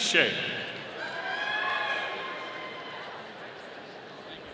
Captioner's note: audience cheering